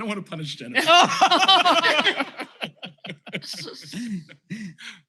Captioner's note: laughter